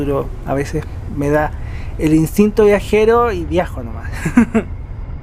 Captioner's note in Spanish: risas